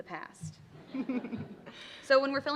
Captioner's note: laughter